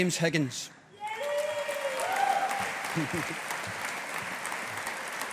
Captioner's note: audience applauding